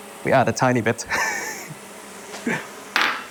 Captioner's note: chuckles